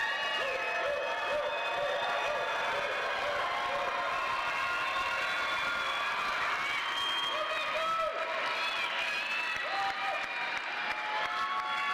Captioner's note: cheers and applause